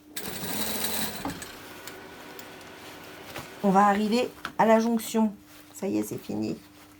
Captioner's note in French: Bruit de machine à coudre